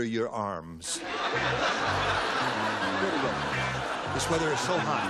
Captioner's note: laughter